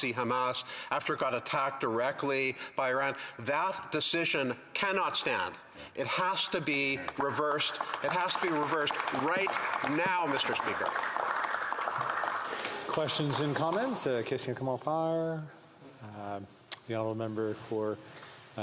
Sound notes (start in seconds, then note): 14.3 applause